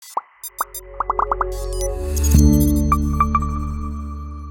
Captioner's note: gentle electronic tones